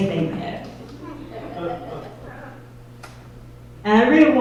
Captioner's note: audience laughs